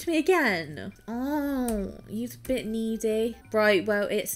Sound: whines

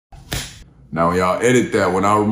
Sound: slap

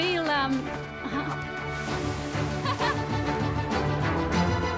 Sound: Nandi laughing

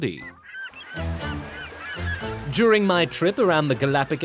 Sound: cawing

